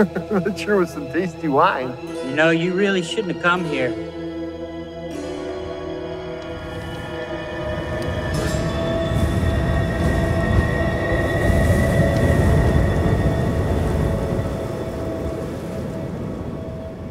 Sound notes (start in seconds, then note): 0.0 laughs; 5.7 tense music; 9.4 wind roaring